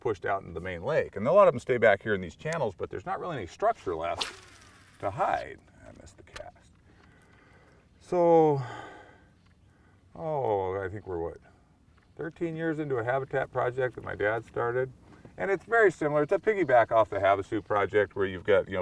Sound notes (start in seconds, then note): 5.5 rod whipping; 6.4 reel spinning